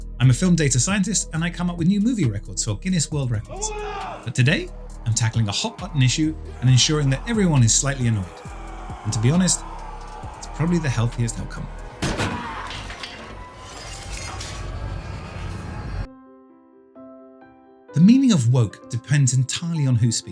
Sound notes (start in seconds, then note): 12.0 object crashes; 14.2 gentle music